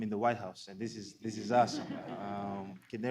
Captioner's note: laughter